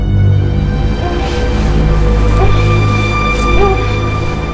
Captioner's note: woman whimpering